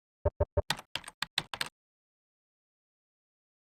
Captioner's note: keyboard typing